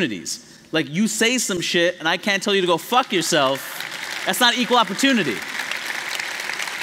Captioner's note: applause